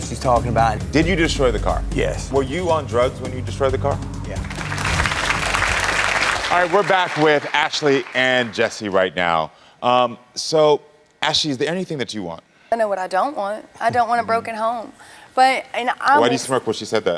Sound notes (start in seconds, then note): 4.3 audience clapping